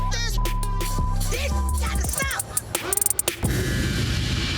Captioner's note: beep; dramatic instrumental music